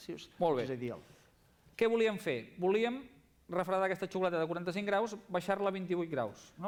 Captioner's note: non-english speech